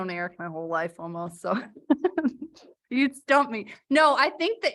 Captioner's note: laughter